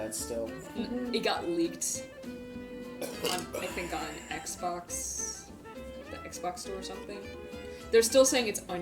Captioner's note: casually burps